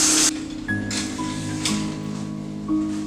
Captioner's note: curtain Slides Open